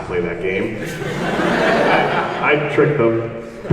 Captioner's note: audience laughs